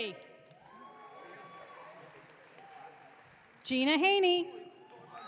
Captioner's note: audience cheering